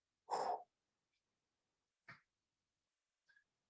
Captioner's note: breathes deeply